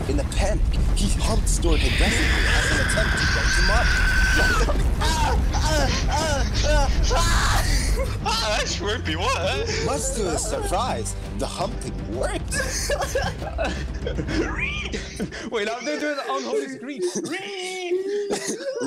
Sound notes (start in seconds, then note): 1.5 otherworldly screeching